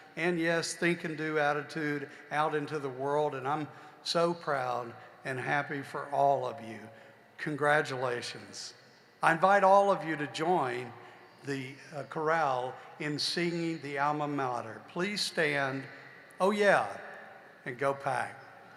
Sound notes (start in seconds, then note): none